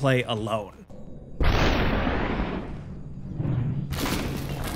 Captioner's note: gunshot firing